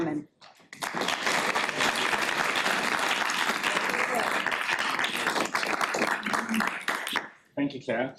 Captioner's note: applauding